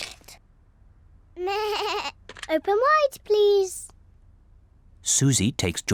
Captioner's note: bleats